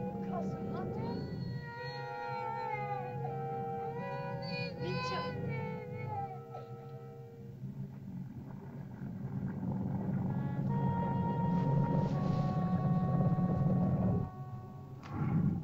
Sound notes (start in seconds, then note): 0.0 Wandi cries; 0.0 ominous music; 0.2 Loana speaks in caveman language; 2.3 Wandi cries; 2.3 ominous music; 4.8 Loana's mother speaks in caveman language; 8.3 lizard grumbles; 8.3 ominous music